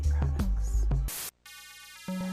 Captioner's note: static